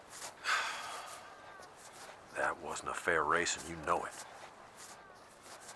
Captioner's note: sighs